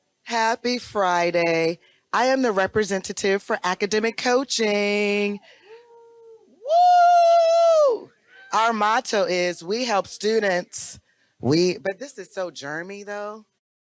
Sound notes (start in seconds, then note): 5.6 other representatives cheer